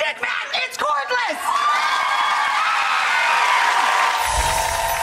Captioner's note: audience cheers